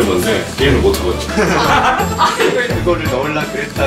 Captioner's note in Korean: 웃음소리